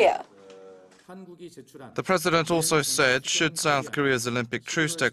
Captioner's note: Korean